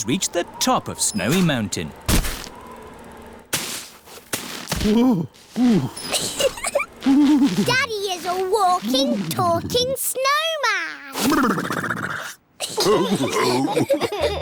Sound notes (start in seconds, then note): 4.8 groans; 5.9 giggles; 12.8 all laughing